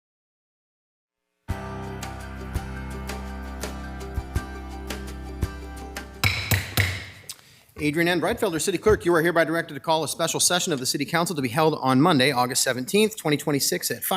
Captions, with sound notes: (bright music) (gavel tapping) - Adrienne N. Breitfelder, city clerk, you are hereby directed to call a special session of the city council to be held on Monday, August 17th, 2026